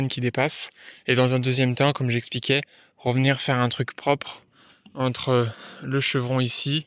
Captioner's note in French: grognement